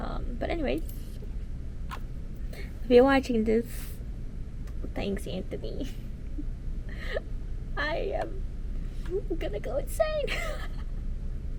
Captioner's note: laughs